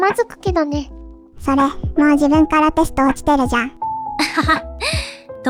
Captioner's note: laughs